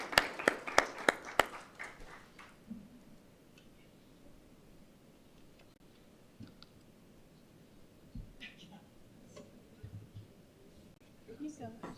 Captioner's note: applause